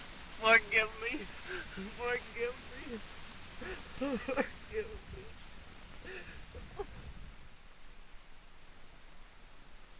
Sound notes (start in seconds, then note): 3.6 sobbing